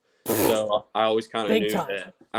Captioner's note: blows out air loudly